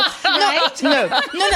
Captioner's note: laughter